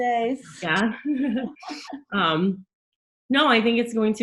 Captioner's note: both laughing